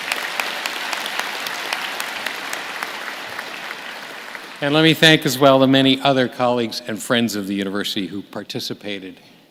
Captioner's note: applause